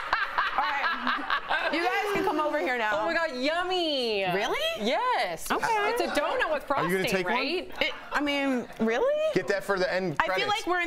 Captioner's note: laughter